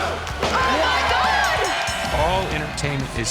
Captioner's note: bell rings